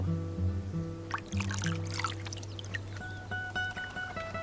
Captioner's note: water trickling